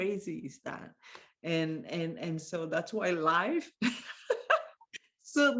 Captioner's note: chuckling